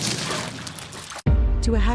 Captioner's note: ice sounds